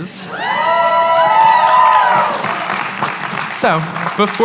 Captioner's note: cheering, applause